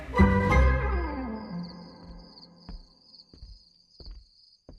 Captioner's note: crickets chirping